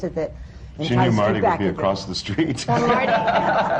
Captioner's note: laughter